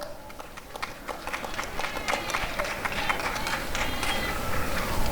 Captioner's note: applause and cheering